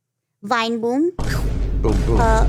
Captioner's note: computer generated booming